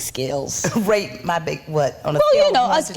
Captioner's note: chuckling